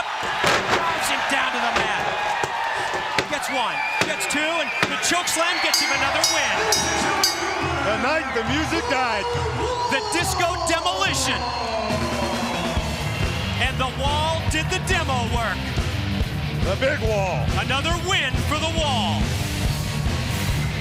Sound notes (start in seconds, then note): 7.1 bell ringing